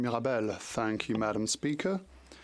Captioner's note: speaking French